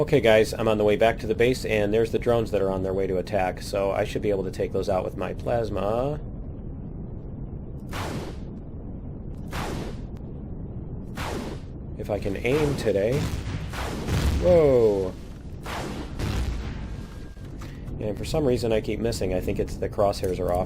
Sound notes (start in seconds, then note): 12.2 plasma cannon